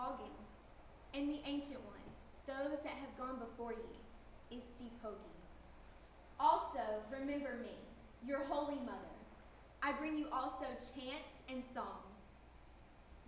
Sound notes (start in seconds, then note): 0.0 speaking indigenous language; 4.8 speaking indigenous language